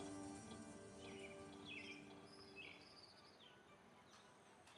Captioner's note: chirping